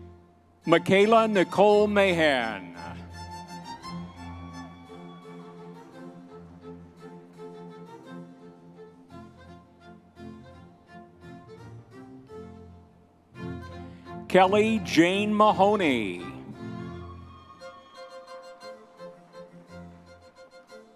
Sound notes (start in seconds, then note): 3.5 audience members cheering; 7.9 classical orchestral music continues; 16.8 audience members cheering